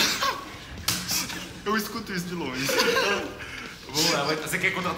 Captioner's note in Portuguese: Risadas; Risos